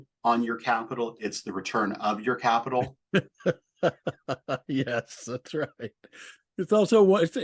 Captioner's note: laughter